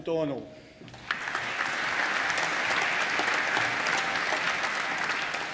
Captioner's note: applause